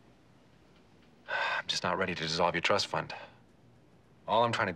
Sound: sighs

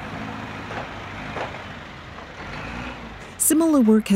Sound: construction rumbles

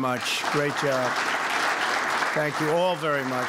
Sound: applause

